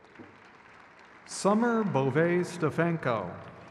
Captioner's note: crowd claps